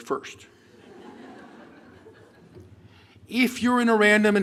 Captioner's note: laughter